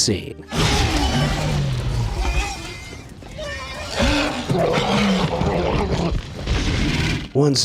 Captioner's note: T-Rex growls